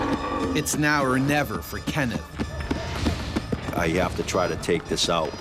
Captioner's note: voiceover